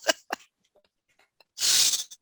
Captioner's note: laughs